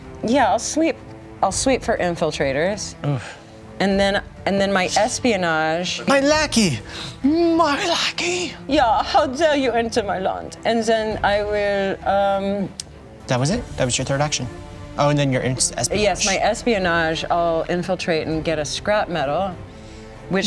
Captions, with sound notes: Yeah, I'll sweep for infiltrators. And then my espionage-- My lackey! My lackey! (imitates German accent) Yeah, how dare you enter my land? And then I will ... That was it. That was your third action. Oh and then your espionage. Yes, my espionage, I'll infiltrate and get a scrap metal.